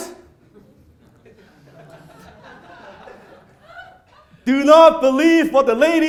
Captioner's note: crowd laughs